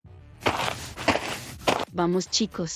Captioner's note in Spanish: FX - Footsteps - On Multiple Dirt - Walk